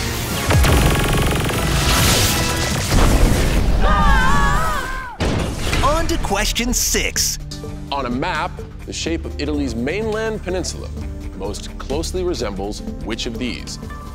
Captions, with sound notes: [screaming] On to question six. On a map, the shape of Italy's mainland peninsula most closely resembles which of these?